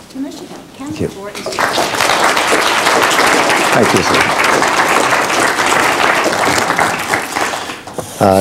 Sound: applause

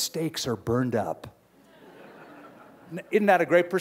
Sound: laughter

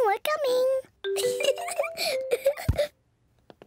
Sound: giggles

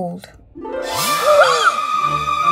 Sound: gasping

